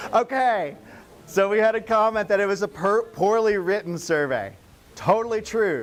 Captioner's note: laughing